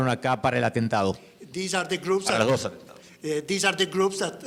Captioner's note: speaking in foreign language; speaks foreign language